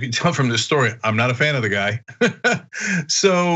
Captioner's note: laugh